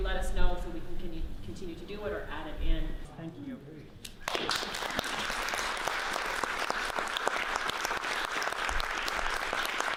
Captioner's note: audience claps